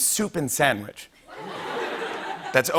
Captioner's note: laughter